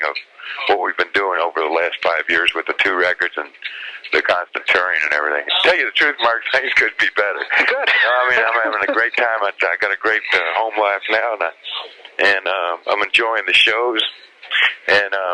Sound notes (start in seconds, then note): 6.6 laughs